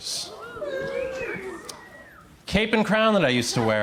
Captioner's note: crowd cheers